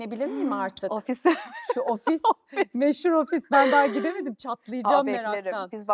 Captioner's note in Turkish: kahkaha